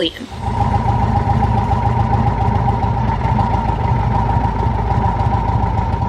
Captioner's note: motorcycle's engine running